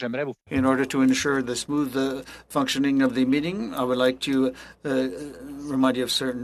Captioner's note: speaking French